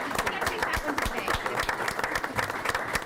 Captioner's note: clapping